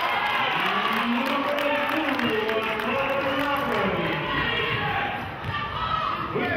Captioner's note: cheering and clapping